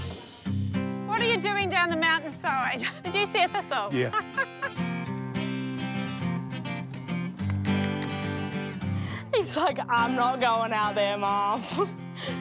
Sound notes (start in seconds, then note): 2.8 laughs; 4.9 upbeat guitar music; 7.4 clicks tongue; 11.8 laughs